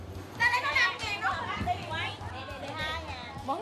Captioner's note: chatter